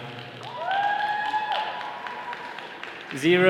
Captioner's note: all cheering